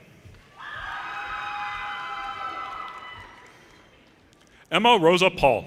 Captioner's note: audience cheers and applause